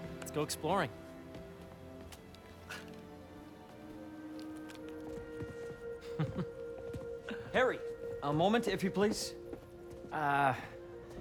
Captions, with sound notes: ...let’s go exploring! (laugh) Harry! A moment, if you please. Uh...